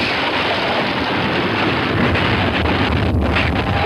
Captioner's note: wagon explodes